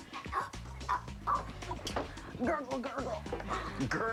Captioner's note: choking